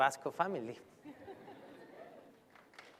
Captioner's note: laughter; applause